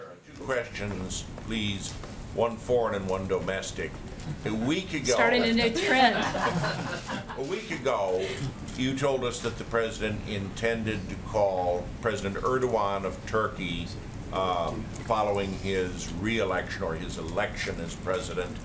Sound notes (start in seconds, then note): 5.8 laughter